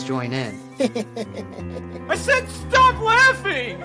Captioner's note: boy laughs